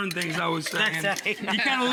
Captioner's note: laughing